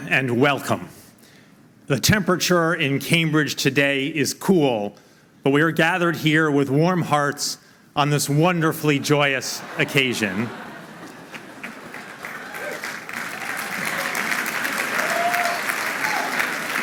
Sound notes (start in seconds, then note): 10.2 laughing; 11.2 applause